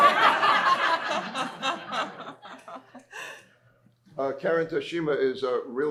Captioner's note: laughter